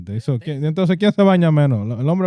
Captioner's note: speaking In Foreign Language